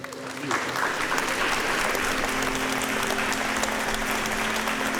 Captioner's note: audience applauds